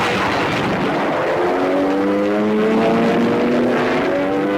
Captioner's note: planes buzzing